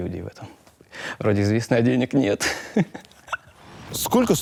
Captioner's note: laughs